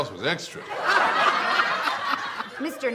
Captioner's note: audience laughs